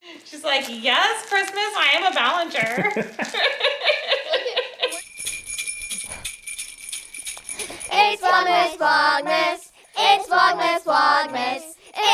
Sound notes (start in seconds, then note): 2.6 couple laughs; 5.0 bells jingle